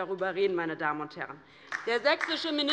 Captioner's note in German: Beifall bei der LINKEN